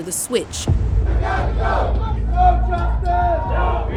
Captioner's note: people protesting